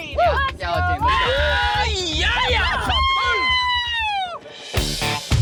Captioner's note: all cheering